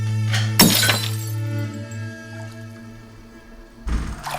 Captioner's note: glass shattering